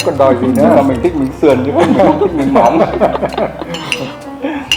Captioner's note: laugh